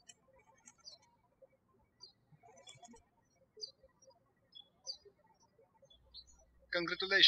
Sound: birds chirping

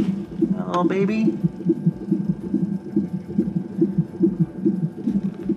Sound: heartbeat thumping

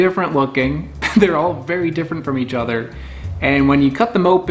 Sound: chuckles

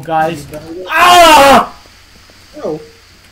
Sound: screams; gas sounds

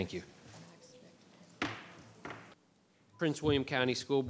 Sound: gavel banging

